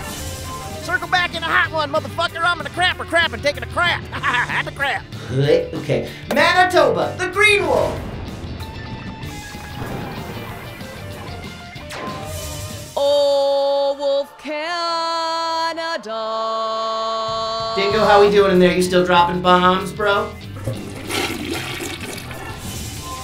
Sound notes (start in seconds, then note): 4.0 laughs; 8.9 rock music; 12.1 laser fires; 20.5 toilet flushes